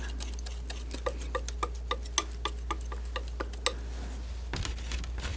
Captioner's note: scratching